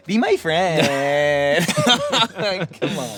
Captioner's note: both laughing